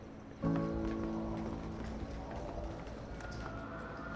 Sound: footsteps

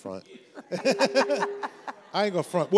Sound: everyone laughs

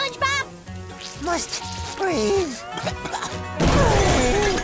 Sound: sputters

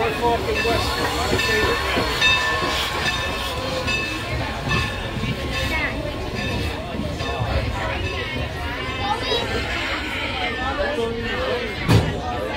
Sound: bells, Squeaky Brakes & Chatter

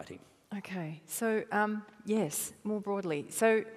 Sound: none

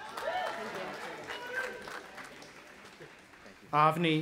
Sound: audience applauding and cheering

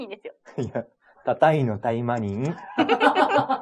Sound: laughs

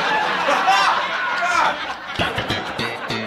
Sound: canned laughter

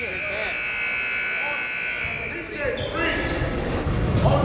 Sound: buzzer dings

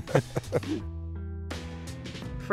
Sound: both laughing

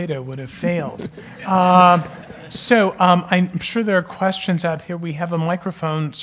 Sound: laugh

